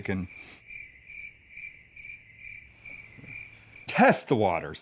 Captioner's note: insects cricking